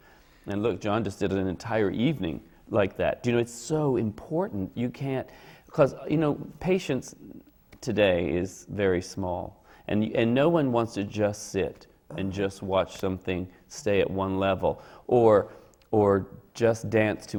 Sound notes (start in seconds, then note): none